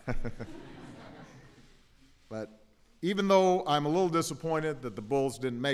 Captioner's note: laughter